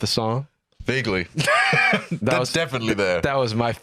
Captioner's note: laughs